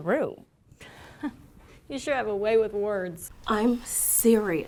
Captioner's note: laughs